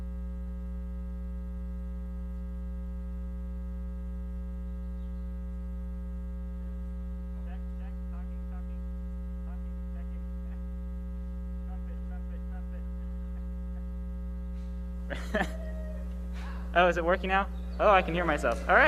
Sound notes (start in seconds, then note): 15.0 laughing